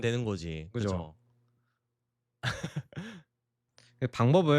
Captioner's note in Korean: 웃음